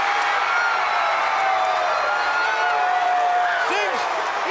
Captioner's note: crowd cheering